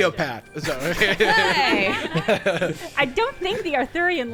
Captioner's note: players laughing